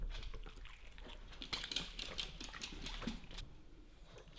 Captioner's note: dogs lips smacking